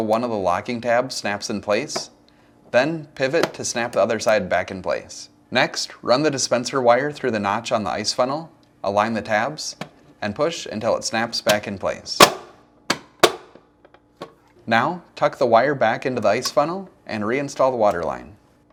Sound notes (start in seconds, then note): 12.2 snapping